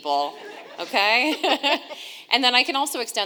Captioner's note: audience laughing